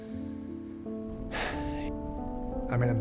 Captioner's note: sighs